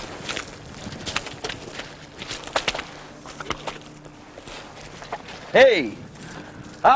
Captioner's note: splash